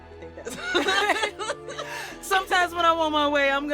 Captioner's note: laughter